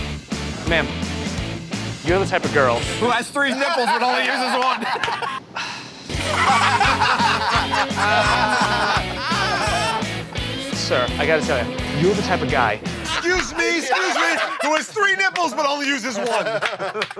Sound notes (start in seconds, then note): 5.5 sighs; 6.2 laughter